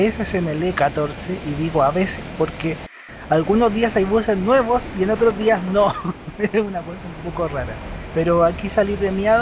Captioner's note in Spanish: risas